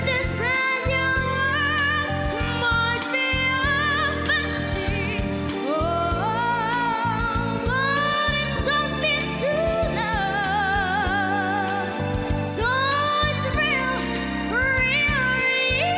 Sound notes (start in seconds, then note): none